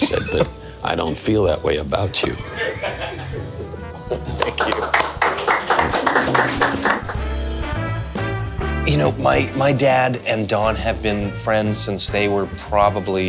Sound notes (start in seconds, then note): 2.2 laughing; 4.3 applause